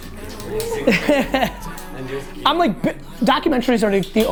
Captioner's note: laughter